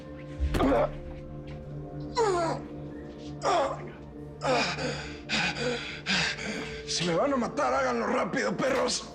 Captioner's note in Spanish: Quejidos